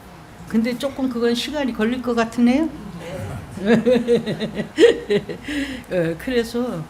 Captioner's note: laughter